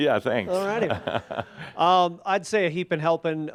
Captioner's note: Adamus chuckles